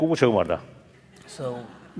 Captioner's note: foreign Language